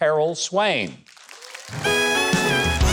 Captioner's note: audience claps; jazz band plays